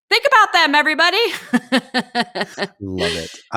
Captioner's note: laughing